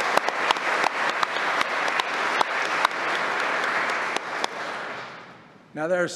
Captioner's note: applause